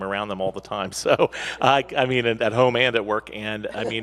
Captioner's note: laughs